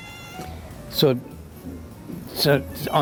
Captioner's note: meows